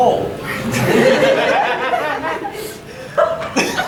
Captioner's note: audience laughing; audience has the giggle fits